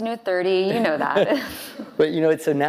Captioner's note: laughing